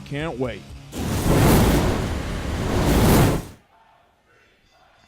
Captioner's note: sizzling fire sound